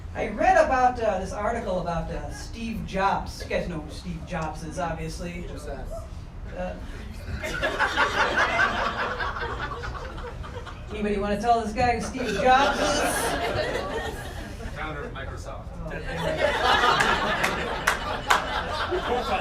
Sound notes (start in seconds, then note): 7.0 audience laughter; 15.9 audience laughter; 16.7 crowd clapping